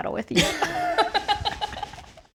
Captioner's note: both laughing